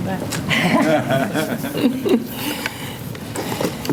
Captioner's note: laughter